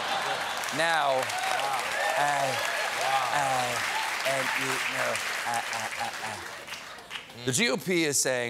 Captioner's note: cheers and applause; laughter